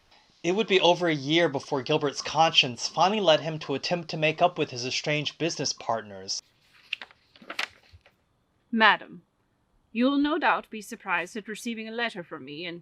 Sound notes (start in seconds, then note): 6.5 letter unfolding